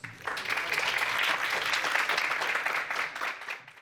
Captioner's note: applause